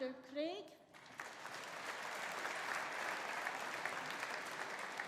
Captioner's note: audience applauding